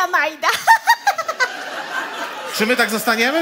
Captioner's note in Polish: śmiech